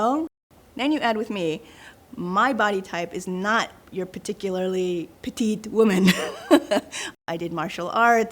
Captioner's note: laughs